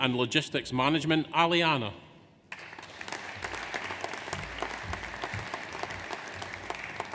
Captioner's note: audience applauds